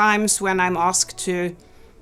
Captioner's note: none